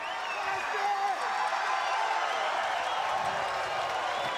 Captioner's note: crowd cheering